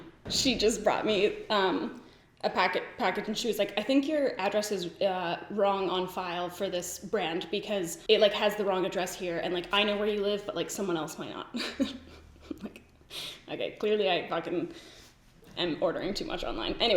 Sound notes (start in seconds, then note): 11.5 giggles